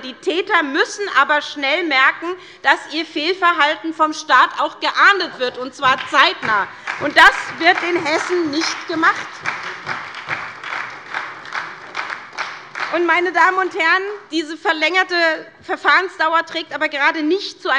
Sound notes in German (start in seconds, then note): 9.3 Beifall bei der SPD